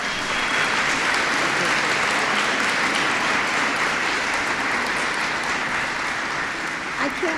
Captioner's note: applause